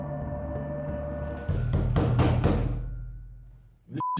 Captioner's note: thudding